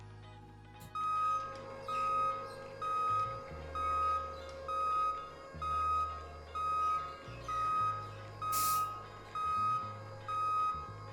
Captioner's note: desk machine whirring and beeping as it moves